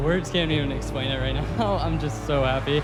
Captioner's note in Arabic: ضحك